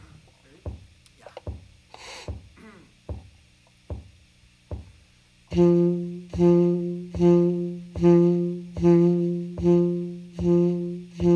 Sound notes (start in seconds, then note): 1.8 beat with foot continues